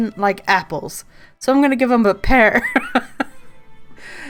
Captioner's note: laughs